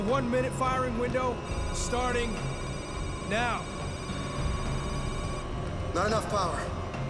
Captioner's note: electronic beeping